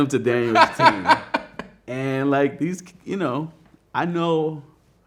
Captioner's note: man laughing